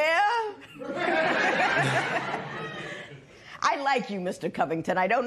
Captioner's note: laughter